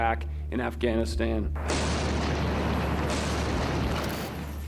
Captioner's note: boom